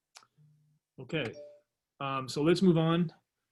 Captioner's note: phone beeps